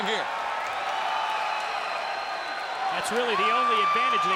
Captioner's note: audience cheers